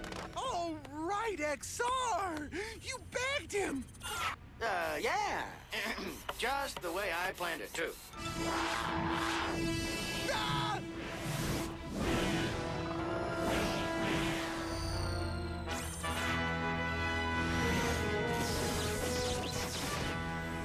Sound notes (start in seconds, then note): 6.1 clears throat